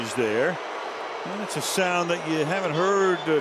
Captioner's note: booing